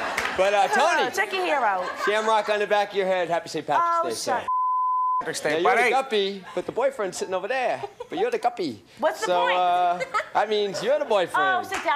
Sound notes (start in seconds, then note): 4.4 beep